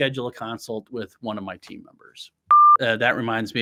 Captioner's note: test pattern beeps